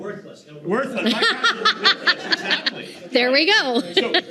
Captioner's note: all laughing